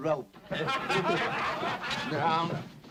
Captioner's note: men laugh